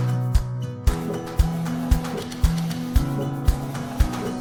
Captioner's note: printer whirring